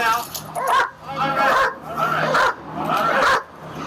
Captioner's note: dog barks